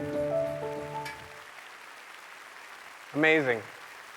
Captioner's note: applause